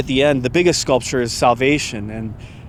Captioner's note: sighs